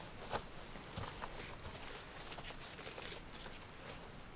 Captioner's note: none